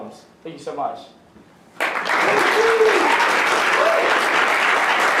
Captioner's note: applause